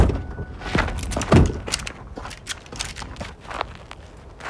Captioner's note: guns clicking